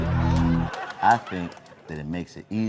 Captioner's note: audience laughs